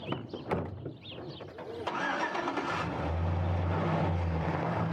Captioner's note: engine starting